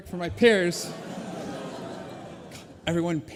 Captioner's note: collective gasps